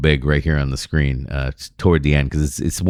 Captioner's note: uh